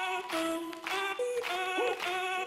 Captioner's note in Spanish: aplausos